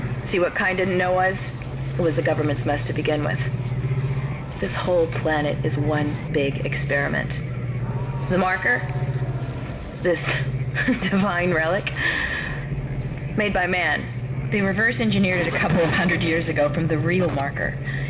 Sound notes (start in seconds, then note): 10.7 snickers